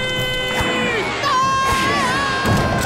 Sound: screaming

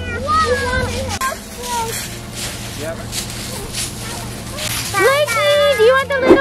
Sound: grass crunching

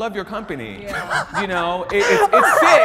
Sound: participants laughing

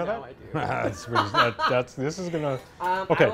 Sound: laughs

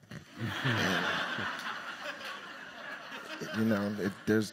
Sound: audience laughs

